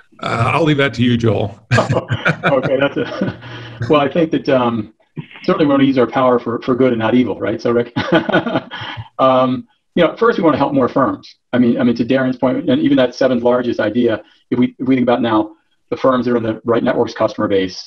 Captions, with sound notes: I'll leave that to you, Joel. -[chuckle] Okay. I think that we're certainly going to use our power for good and not evil. Right, Rick? First, we want to help more firms. To Darren's point, even that seventh-largest idea if we think about now, the firms are on the Right Networks' customer base.